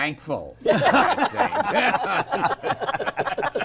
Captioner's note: laughter